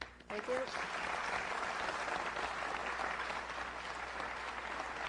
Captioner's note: applause